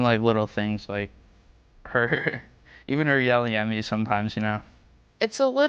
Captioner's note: laughing